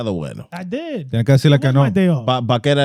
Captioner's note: speaking In Foreign Language